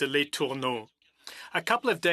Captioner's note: speaking French